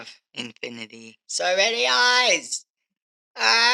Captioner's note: yelling